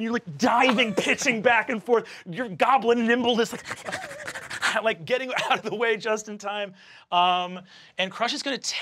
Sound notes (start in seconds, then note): 3.5 panting